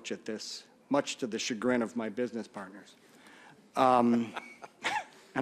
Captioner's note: laughter